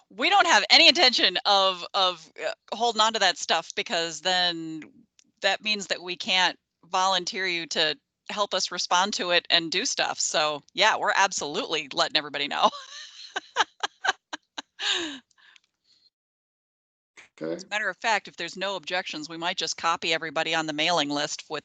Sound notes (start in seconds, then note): 12.5 laughing